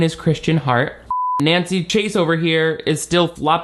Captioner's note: beep